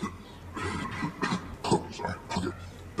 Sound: clears throat

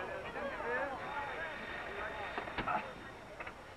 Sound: phone rings

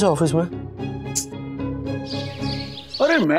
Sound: birds chirping

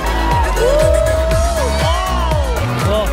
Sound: crowd cheers

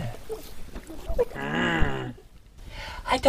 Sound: grumbles

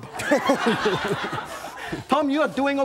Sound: audience laughs

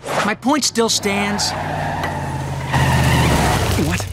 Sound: tires screeching

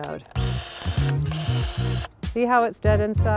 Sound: pruner whirs

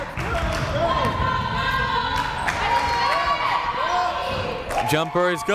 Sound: crowd cheering and chanting

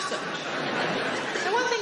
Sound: audience laughing

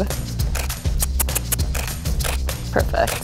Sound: kissing teeth

